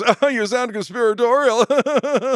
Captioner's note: laughs